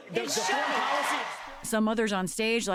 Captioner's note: cheering and applause